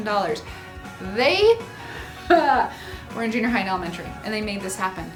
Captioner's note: laughs